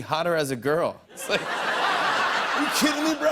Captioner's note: laughter